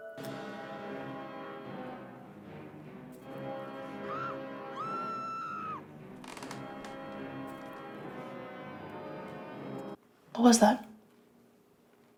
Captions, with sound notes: (movie music) (screaming) (floorboard creaking) - What was that?